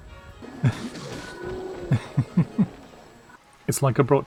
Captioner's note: past-Me does mild maniacal laughter